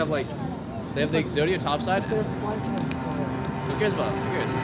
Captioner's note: chattering continues